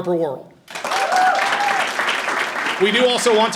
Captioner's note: audience applauding and cheering